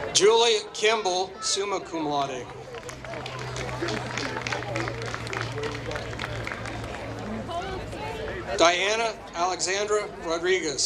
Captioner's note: applause